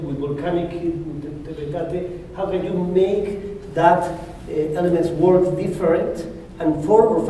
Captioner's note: spanish